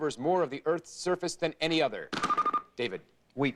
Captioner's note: bell rings